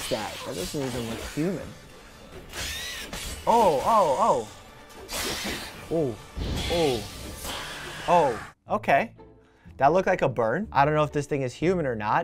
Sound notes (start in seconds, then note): 2.5 creature screeching; 7.4 creature screeching